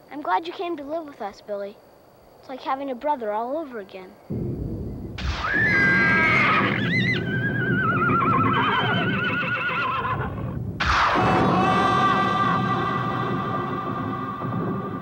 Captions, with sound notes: I'm glad you came to live with us, Billy. It's like having a brother all over again. (thunder clapping) (horses whinnying) (thunder clapping) - Hold on!